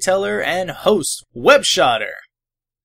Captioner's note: none